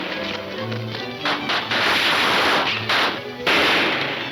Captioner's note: gunshots banging